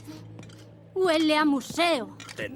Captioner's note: sniffs